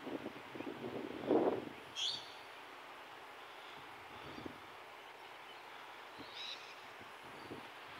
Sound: white noise

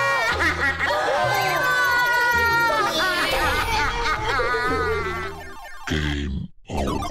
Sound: everyone cries

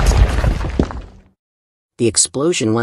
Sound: rumble

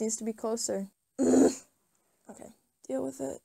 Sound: groans

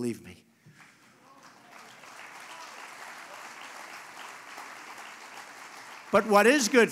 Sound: applause

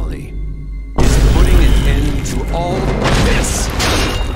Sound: vine boom x4; vine boom x3

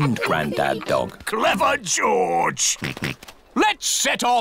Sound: snorts

